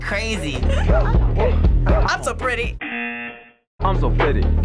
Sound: buzzer

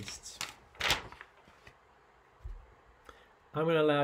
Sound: page rustling

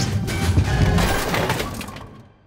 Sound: bowling strike sound

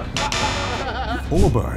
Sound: group laughter; buzzer sound

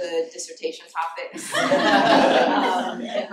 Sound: laughter

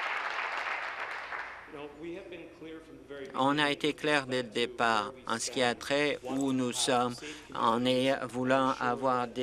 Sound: applause

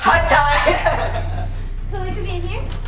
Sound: laughs

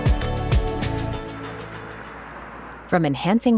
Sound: ocean waves

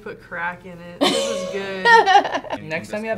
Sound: laughs

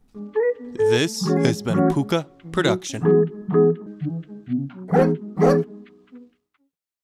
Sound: woof woof

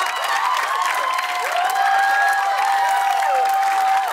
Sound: cheers and applause

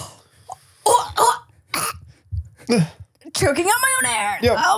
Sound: gasps and chokes

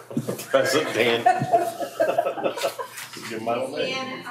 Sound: people laughing

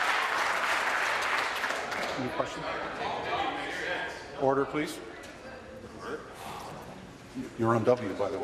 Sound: applause

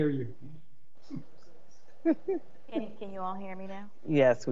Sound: members chuckling

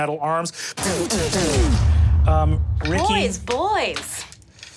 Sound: mimics metal blows landing

